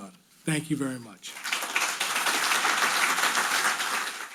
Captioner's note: audience applauding